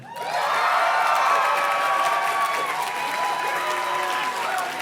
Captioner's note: audience cheers and claps